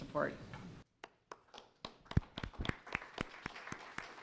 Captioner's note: applause